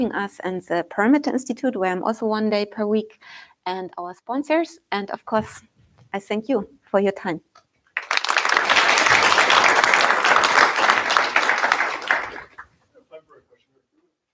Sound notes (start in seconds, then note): 7.9 applause